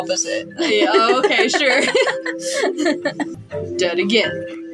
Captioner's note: laugh; chuckle